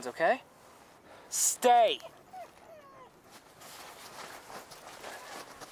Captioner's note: Buck whining